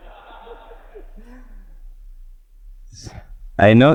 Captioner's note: people laughing